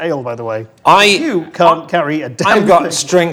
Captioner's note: overlapping chattering